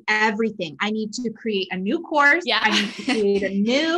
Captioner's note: laughs